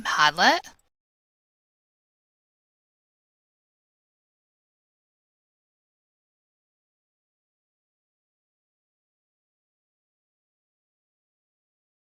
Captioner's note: silence